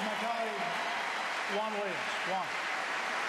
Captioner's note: applause